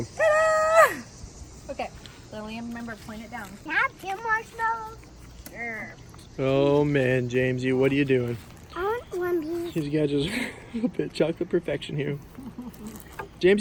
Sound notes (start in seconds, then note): 8.8 child babble